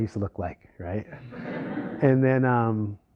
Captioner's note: laughter